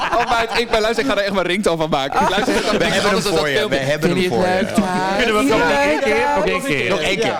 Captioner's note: start gaggling over each other